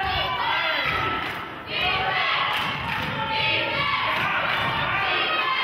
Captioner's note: clapping